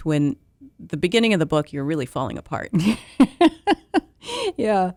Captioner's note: laughter